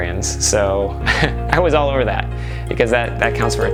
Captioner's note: laughs